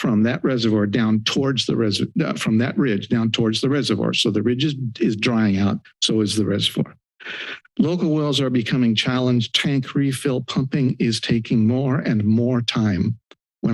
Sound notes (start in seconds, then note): 7.2 inhales